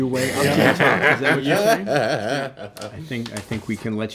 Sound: laughing

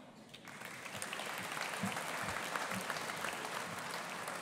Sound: audience applauding

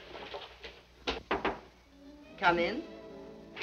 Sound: door knocking

